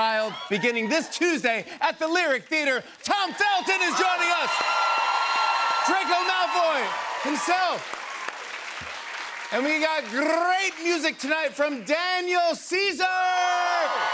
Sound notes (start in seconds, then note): 7.8 cheers and applause; 12.9 cheers and applause